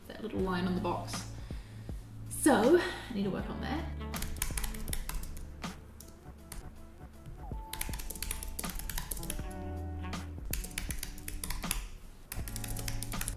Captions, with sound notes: That little line on the box. So, I need to work on that. (keyboard clicking)